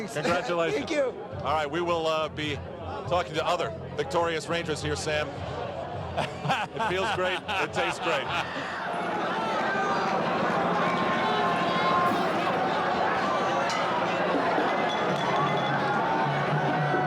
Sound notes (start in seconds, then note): 11.1 crowd screaming